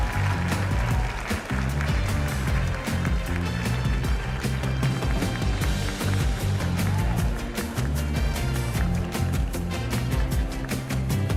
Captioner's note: cheers and applause